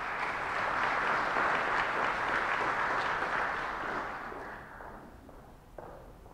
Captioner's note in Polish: oklaski